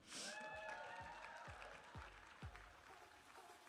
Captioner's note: audience applauding and cheering; upbeat music